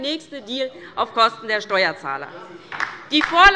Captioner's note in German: Beifall bei der LINKEN